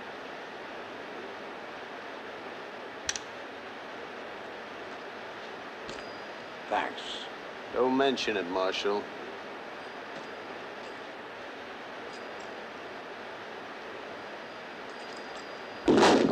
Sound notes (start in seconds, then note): 3.1 rifle clicks